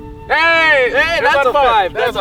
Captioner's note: both exclaiming